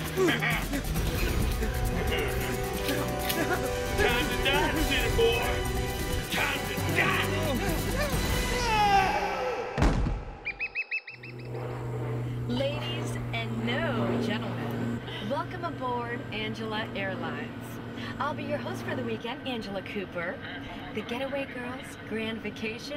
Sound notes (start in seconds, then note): 0.0 chuckles; 8.4 screams; 9.7 gunshot; 10.4 chirping